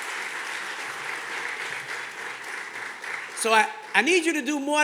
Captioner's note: audience clapping